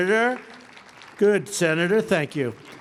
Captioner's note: applause